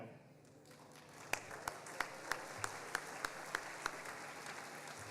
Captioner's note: audience applauding